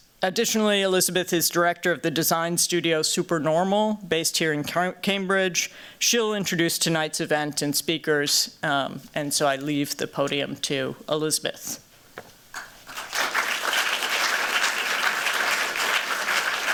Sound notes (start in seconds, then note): 12.5 applause